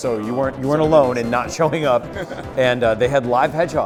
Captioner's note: laughs